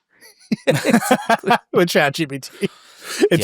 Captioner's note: laughs